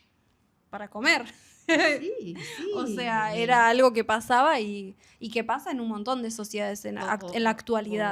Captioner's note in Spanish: risas